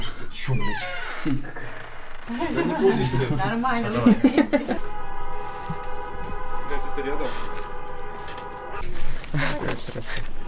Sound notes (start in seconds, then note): 1.0 laughing; 4.8 cars honking in the distance